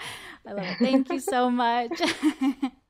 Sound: laughs

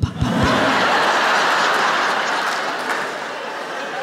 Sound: laughter

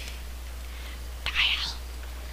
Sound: whispering

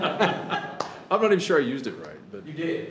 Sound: laughing

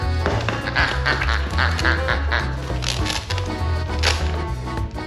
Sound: toy squeaking

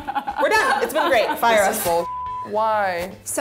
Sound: laughing; beep

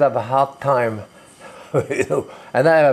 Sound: chuckles

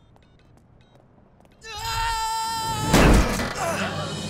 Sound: screaming, thudding

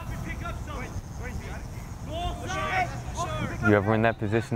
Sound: players talking and yelling

